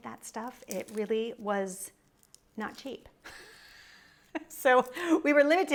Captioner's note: laughs